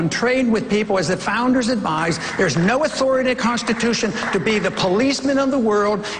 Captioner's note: applause